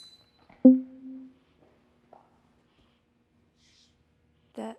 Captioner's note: banner dinging